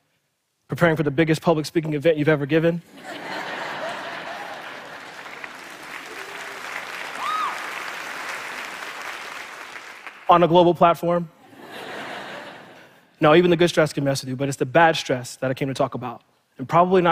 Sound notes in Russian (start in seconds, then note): 2.8 Смех; 5.5 Аплодисменты; 11.4 Смех